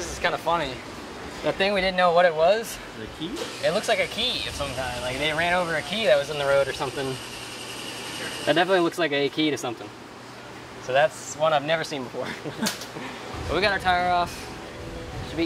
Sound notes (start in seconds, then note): 12.2 laughs